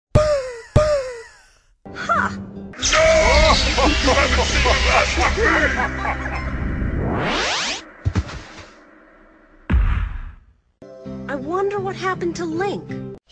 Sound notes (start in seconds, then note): 0.1 empty poofs of nothing; 2.9 King and Zelda laughing; 7.2 magic whooshes, book closes